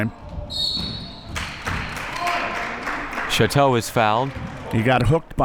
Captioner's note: whistle blowing